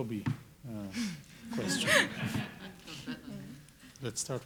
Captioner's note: audience laughing